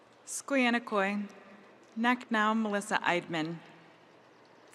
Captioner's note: speaking in Native language